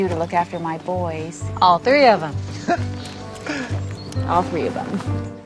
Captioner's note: boys chuckling